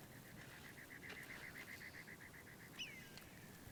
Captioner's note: birds chirping